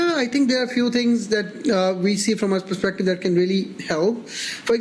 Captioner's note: none